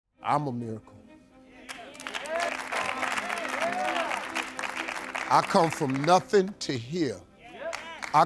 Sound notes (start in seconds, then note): 1.6 crowd; 1.6 crowd applauds